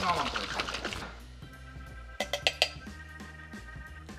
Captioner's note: sloshing; clanking